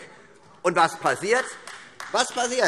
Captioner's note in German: Beifall AfD